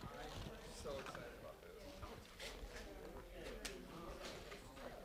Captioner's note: class working and chattering